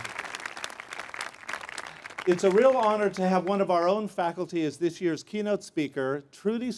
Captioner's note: cheers and Applause